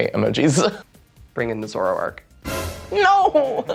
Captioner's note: scary sound